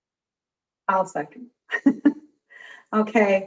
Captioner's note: chuckling